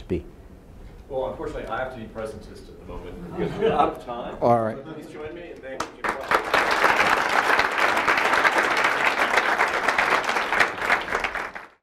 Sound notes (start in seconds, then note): 5.7 applause